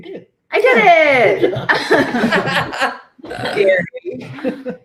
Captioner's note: laughter